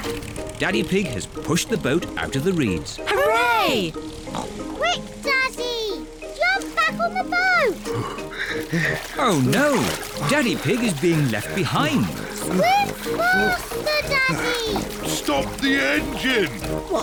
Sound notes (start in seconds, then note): 7.9 panting